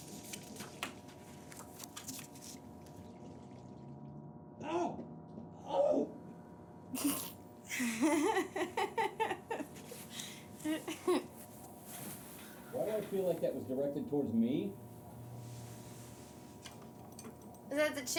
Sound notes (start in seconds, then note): 5.0 screaming; 7.7 Charlie laughs